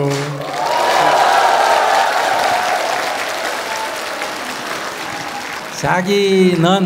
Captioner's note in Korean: 청중박수